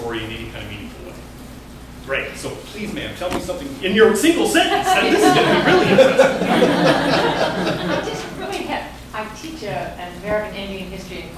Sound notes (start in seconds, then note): 6.4 laughter